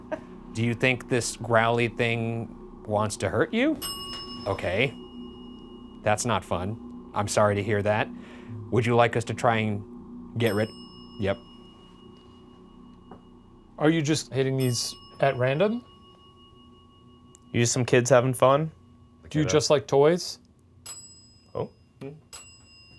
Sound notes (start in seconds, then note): 3.7 bell dings; 10.2 bell dings; 20.8 bell dings